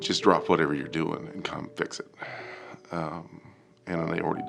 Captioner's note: sighs